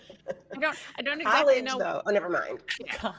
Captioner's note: person laughing